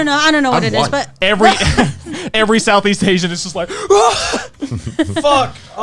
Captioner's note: gasping heavily